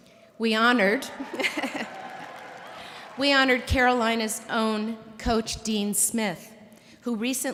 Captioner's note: cheers and applause